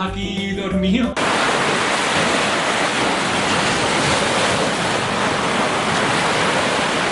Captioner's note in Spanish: Sonido de las olas del mar en medio del océano